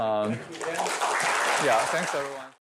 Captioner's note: applause